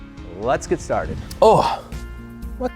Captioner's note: whoosh